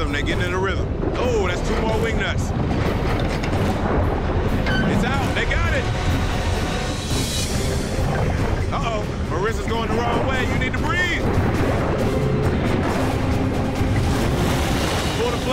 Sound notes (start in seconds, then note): 2.9 door squeaking; 2.9 water gurgling; 7.3 urgent music; 12.0 urgent music; 12.0 water splashing